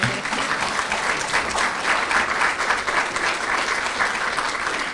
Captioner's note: applause